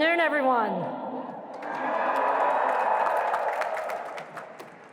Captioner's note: crowd cheering